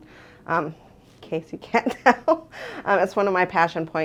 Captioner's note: laughs